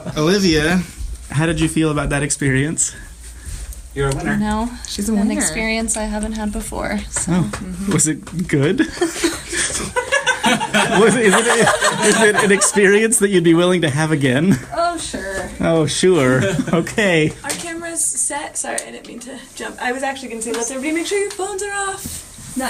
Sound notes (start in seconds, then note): 8.8 everyone laughs heartily; 11.4 still laughing; 16.2 everyone laughs